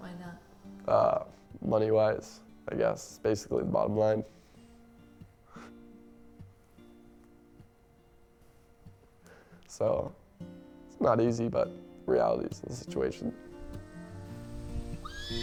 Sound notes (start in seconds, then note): 6.0 chuckles softly